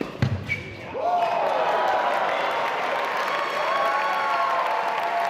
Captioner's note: audience cheering